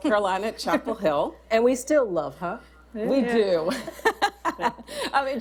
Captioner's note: laughter